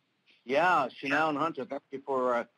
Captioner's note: speaking Native language